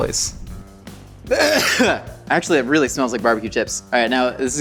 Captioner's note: coughs